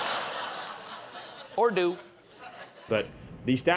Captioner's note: laughter